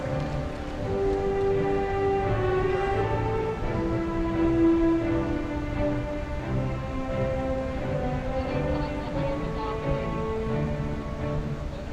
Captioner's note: cheering